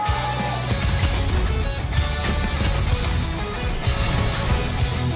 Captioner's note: deep rhythmic music continues; explosions blasting